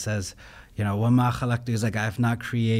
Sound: speaking in foreign language

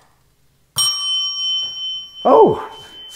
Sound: bell ringing

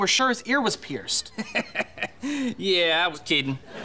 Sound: laughing

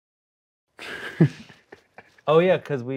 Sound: laughs

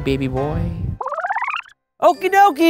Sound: film rewinding

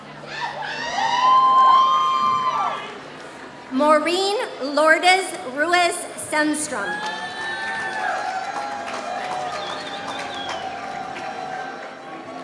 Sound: applause

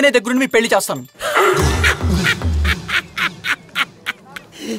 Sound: laughs

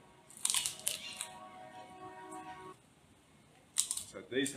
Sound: Crunch

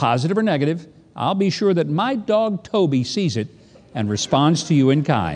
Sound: laughing

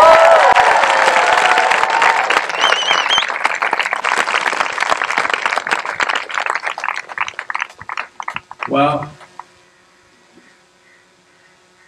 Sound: cheering/Applause

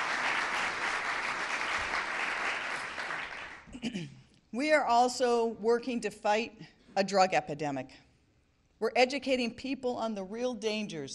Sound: applause

